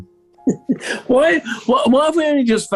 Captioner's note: chuckling